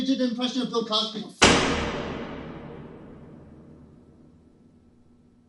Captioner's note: door Slam Sound